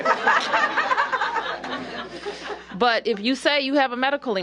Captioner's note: laughter